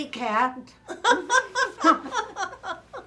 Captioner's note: laughter